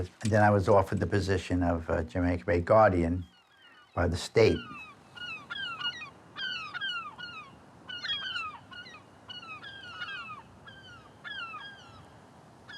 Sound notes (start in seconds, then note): 5.4 gulls crying